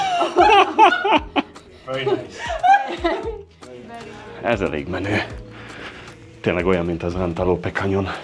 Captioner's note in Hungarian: Nevetés